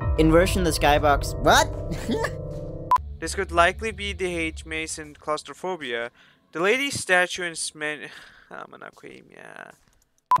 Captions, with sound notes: In version the skybox- What?! [chuckle] This could likely be the hedge maze in Claustrophobia. The Lady Statue in Sman- [in Turkish: "Fuck it.."]